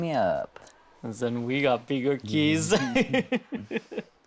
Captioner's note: laughing